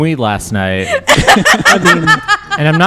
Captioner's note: laughter